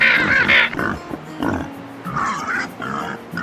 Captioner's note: growling and grunting of mutant boars